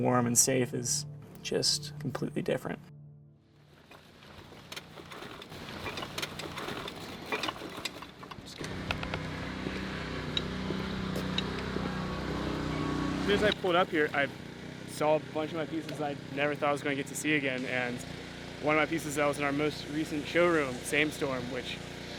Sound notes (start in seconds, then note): 10.0 compressor engine rumbles